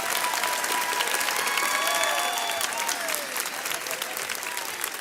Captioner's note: audience and graduates cheer